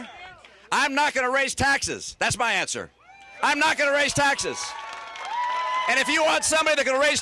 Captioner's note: cheering and applause